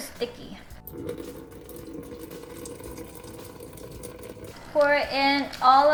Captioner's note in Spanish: Agua fluirendo